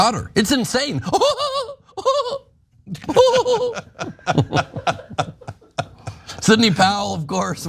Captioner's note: laugh